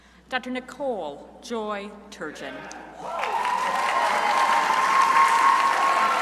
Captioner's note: crowd applauding